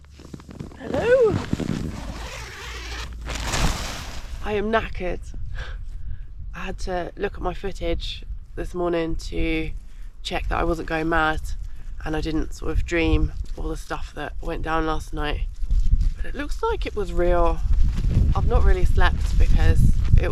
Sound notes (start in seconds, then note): 1.8 zipper